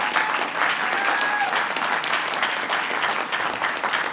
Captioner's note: applause